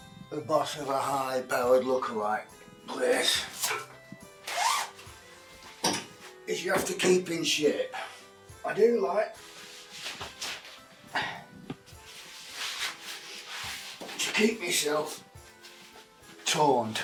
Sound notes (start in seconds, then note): 9.8 grunts